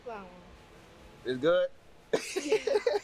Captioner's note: laughs